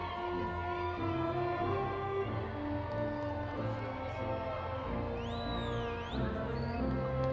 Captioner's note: crowd cheering